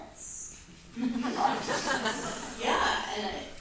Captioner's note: audience laughs